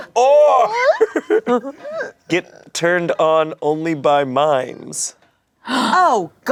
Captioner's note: laughs